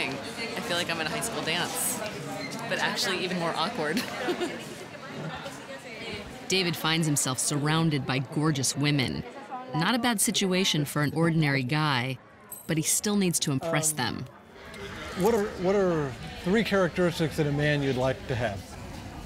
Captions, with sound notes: I FEEL LIKE I'M AT A HIGH SCHOOL DANCE, BUT, ACTUALLY, EVEN MORE AWKWARD. [ CHUCKLES ] DAVID FINDS HIMSELF SURROUNDED BY GORGEOUS WOMEN -- NOT A BAD SITUATION FOR "AN ORDINARY GUY," BUT HE STILL NEEDS TO IMPRESS THEM. WHAT ARE THREE CHARACTERISTICS IN A MAN YOU'D LIKE TO HAVE?